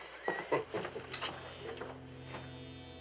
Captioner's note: kıkırdar